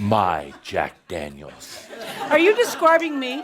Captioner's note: laughter